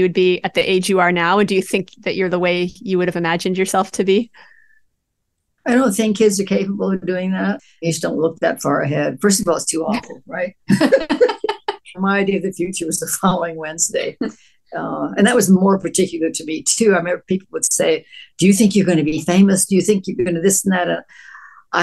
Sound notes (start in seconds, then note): 10.6 laughter